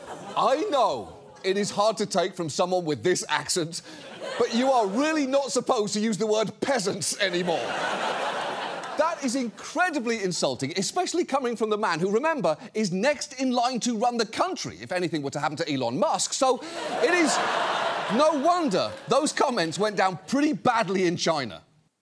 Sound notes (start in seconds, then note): 7.3 audience laughs; 16.6 audience laughs